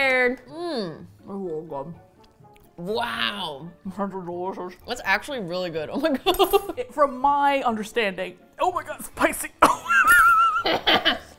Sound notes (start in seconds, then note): 0.6 mouth full; 6.4 laughs; 8.1 straining; 9.6 coughs, wheezes; 9.7 laughs